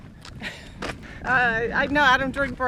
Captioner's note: chuckling